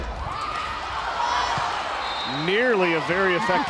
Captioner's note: players yelling